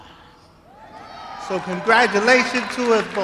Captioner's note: applause